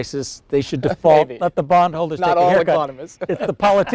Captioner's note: laughing